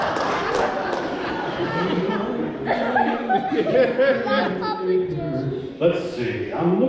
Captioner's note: humming